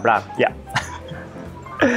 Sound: chuckles

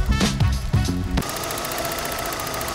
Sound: ticks violently

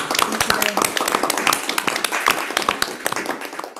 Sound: applause

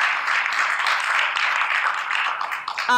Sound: applause

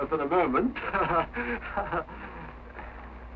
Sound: chuckling

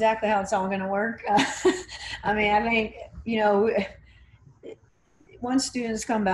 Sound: stammering

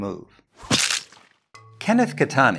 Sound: whack

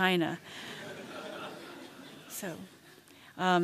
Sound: laughter

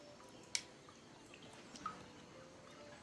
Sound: water dripping from ceiling

